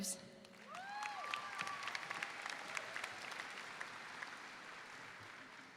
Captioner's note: audience applauds